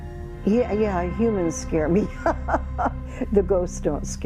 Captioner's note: laughing